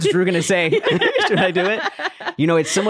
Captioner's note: laughing